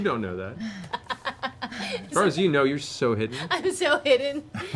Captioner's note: chuckling